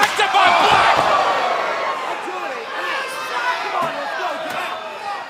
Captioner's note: crowd chatter